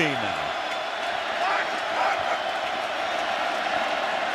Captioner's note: crowd cheering